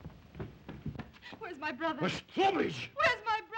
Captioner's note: Zaroff exclaims in Russian